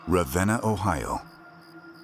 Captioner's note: crickets chirping